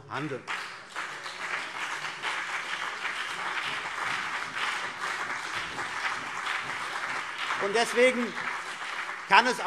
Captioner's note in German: Beifall CDU und BÜNDNIS 90/DIE GRÜNEN